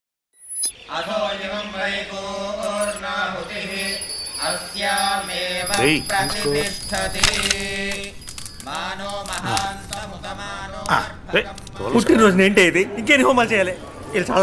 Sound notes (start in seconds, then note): 0.9 Pooja bells ringing; 0.9 homam chants; 7.7 firewood crackling; 7.7 homam chants resume